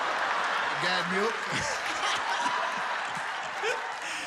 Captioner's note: laughs